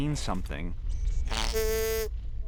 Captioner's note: snorts